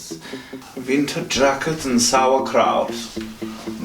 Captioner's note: German accent